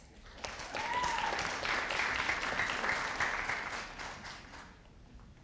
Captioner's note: audience applauding